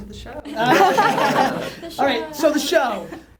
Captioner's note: laughter